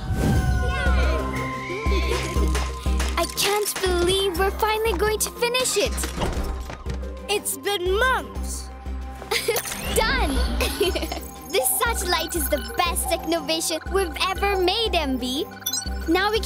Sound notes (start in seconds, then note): 1.6 children laughing; 10.2 laughing